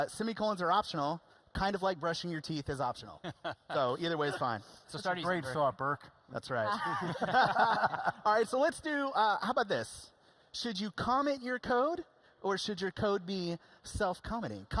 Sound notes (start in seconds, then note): 6.6 laughing